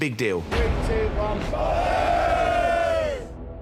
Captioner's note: all cheer